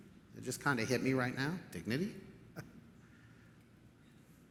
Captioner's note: chuckles